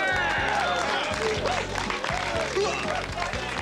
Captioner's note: crowd applauding